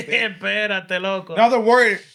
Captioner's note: speaking Spanish